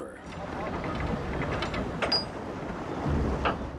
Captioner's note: wheel turning